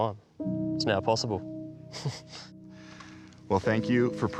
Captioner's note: laughs